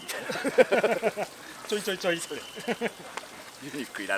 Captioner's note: laughs